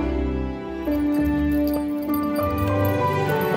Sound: jingling collar tags

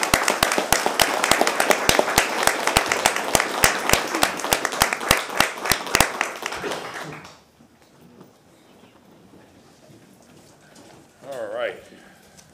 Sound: applause

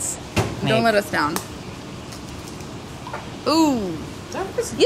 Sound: egg cracks

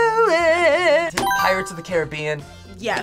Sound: buzzer rings

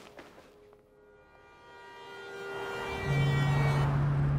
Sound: car horn honking

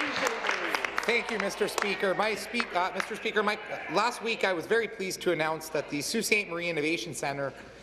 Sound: applause

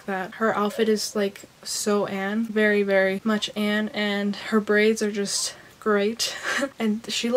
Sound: laughs

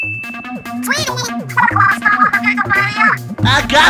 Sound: Inkling gibberish

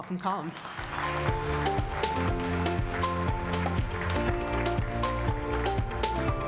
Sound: applause; light happy music

